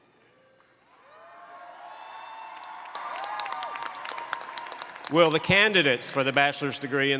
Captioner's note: cheers and Applause